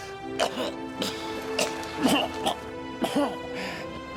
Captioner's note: Ricky coughing